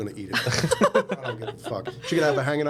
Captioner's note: laughing